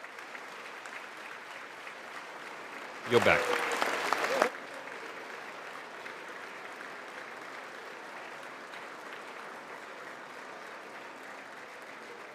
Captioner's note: applause